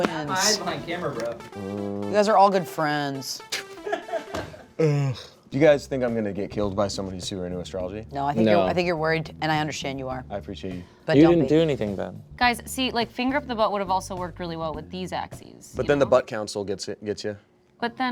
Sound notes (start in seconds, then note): 3.5 laughs